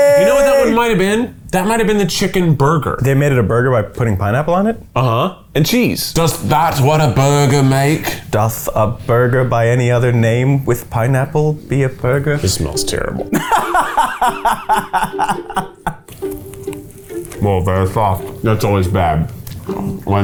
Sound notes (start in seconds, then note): 13.3 laughs